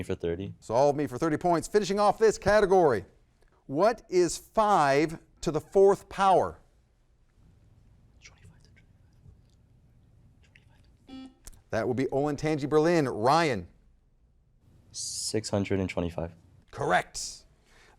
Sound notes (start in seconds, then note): 8.6 faintly speaking; 11.2 buzzer blaring